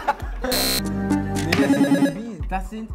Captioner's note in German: Buzzer